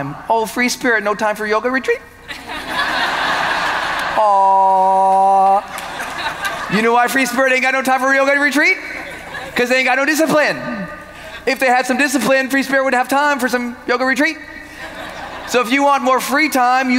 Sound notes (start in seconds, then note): 2.3 audience laughing